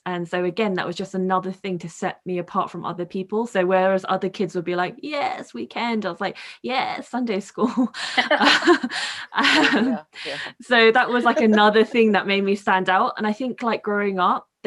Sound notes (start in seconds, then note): 8.2 all girls laughing